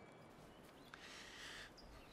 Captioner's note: sighs